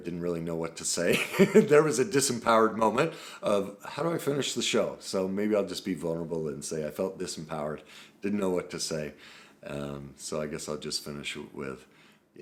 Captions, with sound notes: didn't really know what to say. (chuckles) There was a disempowered moment of how do I finish the show? So maybe I'll just be vulnerable and say, I felt disempowered, didn't know what to say. So I guess I'll just finish with,